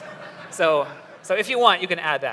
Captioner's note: laughter